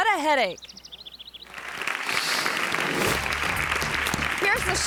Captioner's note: audience applauding